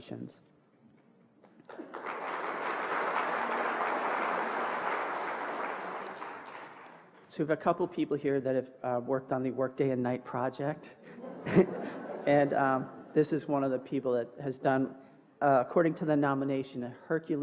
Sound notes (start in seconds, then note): 7.7 applause